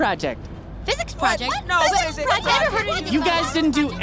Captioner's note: exclamations of confusion